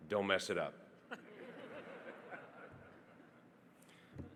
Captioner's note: audience laughing